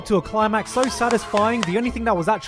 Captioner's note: clapping